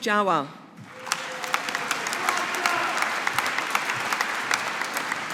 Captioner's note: audience applauding